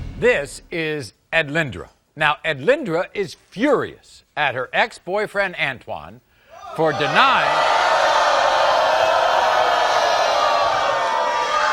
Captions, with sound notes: - This is Edlynndra. Now Edlynndra is furious at her ex-boyrfriend Antwan for denying-- (audience booing)